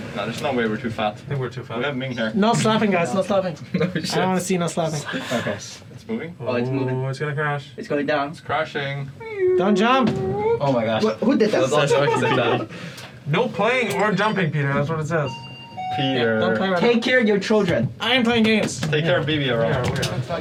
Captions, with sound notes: - No, there's no way we're too fat. - We have Ming here. - No slapping, guys, no slapping. I don't wanna see no slapping. - It's moving? - Oh, it's moving. - It's gonna crash. - It's crashing. - Don't jump. - Oh, my gosh. - Who did that? (all laughing) - No playing or jumping, Peter. That's what it says. - Take care of your children. - I am playing games. - Take care of baby.